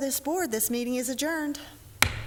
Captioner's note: gavel